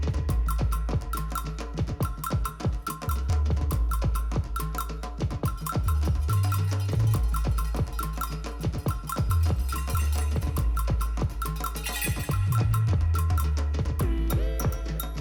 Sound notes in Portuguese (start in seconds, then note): 11.6 tilintar